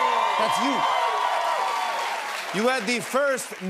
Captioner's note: cheers and applause